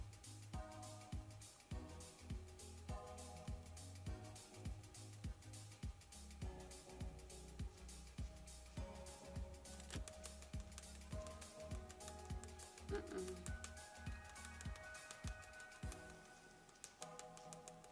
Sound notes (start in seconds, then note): 0.2 soothing music; 9.6 brush tapping on face